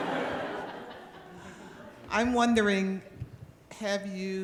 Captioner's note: laughter